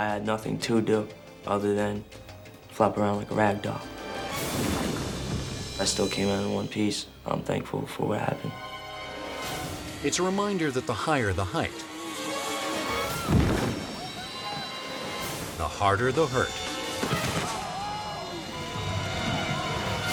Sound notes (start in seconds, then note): 13.6 bike slams; 17.0 body slams